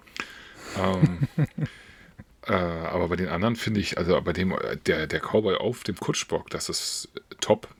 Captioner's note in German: gelächter